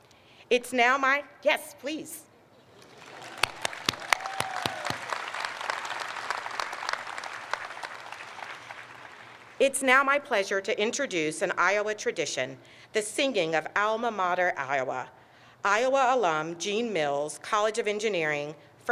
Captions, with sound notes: It's now my... yes, please. (audience applauds) It's now my pleasure to introduce an Iowa tradition, the singing of Alma Mater Iowa. Iowa alum Gene Mills, College of Engineering,